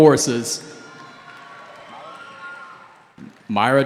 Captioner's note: cheering